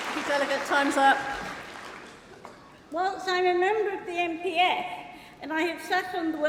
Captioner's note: applause